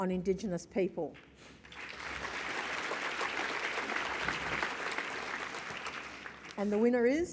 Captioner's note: applause